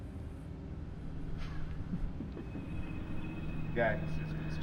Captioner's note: faint chuckling